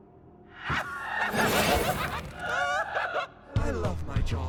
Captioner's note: scoffs; deranged laughter; Everwhen cracking